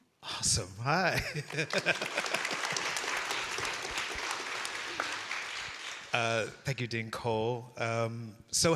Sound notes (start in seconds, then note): 1.1 laughing; 1.4 audience applauding